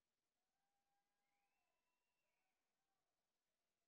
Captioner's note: none